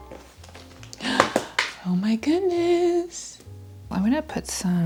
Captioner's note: gasp